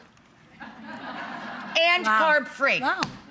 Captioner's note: audience laughs